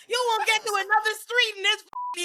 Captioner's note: beep